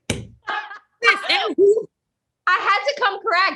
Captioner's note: laughs